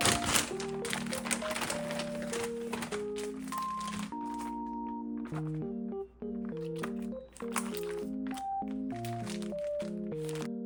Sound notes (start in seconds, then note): 6.6 sobs